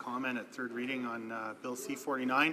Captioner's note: speaking French